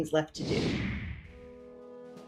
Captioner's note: computer whooshing; peaceful music